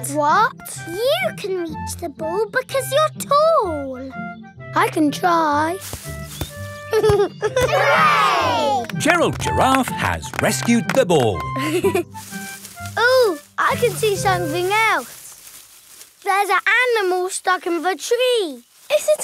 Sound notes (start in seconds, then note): 5.7 leaves rustle; 6.9 giggling; 11.8 leaves rustling